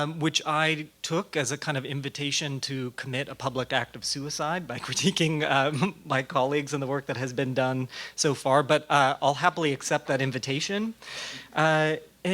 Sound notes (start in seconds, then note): 4.7 laughing